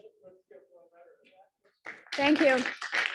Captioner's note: applause